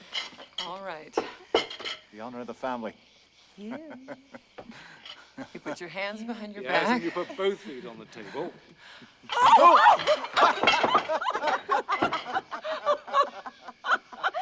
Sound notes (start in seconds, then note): 3.7 hugh laughs; 9.3 screams; 11.3 laughter